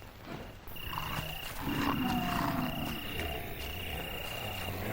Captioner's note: zombies growling